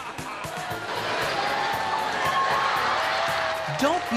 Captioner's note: laughing